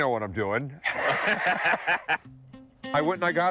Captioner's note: both laugh